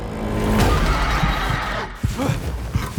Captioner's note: screeching